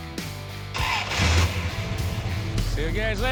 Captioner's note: engine revving